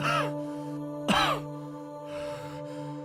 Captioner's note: coughing